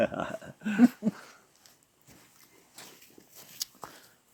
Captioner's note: chuckles, laughter